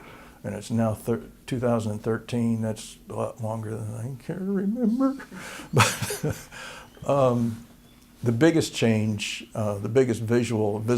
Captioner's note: laughter